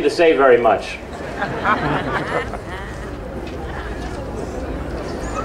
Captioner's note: audience laughs